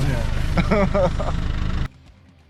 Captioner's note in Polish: śmiech